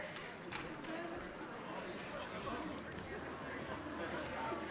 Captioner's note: audience chattering